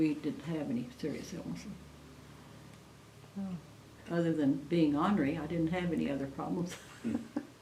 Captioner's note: laughter